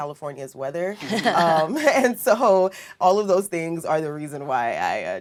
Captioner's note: laugh